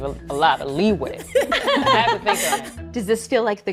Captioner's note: group laughing